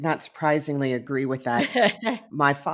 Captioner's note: laughing